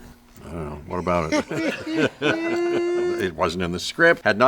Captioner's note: all laughing